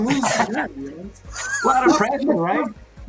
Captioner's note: laughs